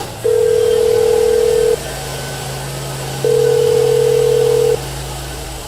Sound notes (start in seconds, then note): 0.0 phone ringing